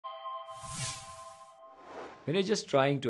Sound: musical sound effect

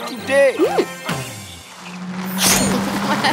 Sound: high-pitched hum; chuckling

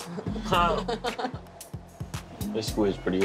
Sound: chuckles

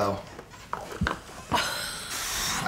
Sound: scoffs; laughs

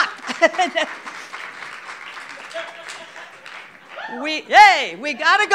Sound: audience clapping

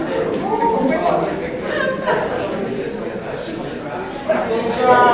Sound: people chattering loudly

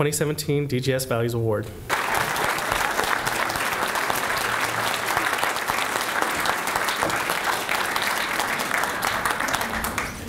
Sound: applause

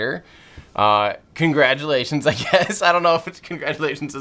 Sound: laughs

